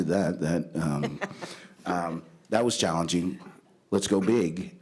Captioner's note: chuckle